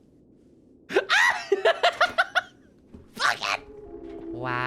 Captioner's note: laughing; mysterious music